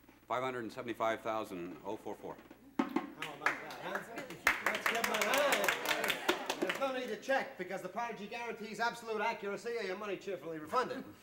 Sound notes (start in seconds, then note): 5.7 applause